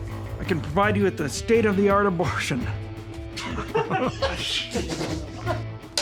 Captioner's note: laughter